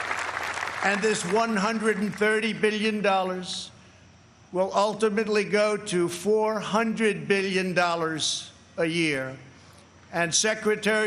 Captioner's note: applause